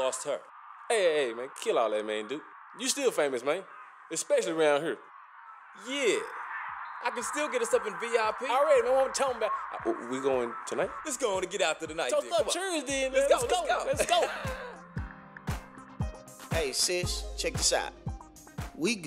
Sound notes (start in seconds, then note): 13.4 laughter; 15.9 lively music